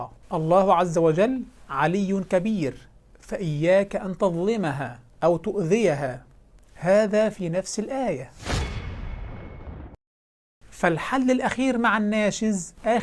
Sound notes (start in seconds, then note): 8.4 sound effects